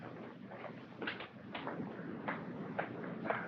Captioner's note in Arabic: none